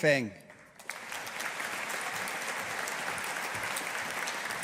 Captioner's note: audience applauding